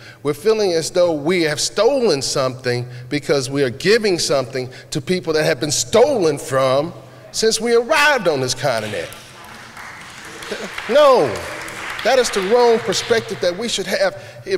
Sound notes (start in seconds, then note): 8.7 applause